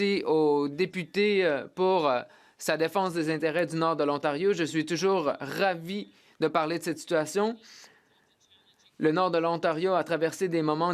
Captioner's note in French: voix de l'interprète